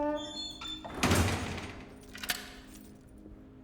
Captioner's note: door thuds; lock clicks